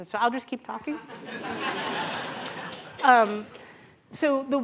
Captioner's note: laughter